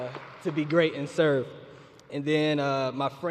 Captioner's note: applause